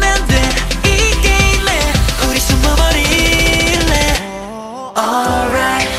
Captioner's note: Ohh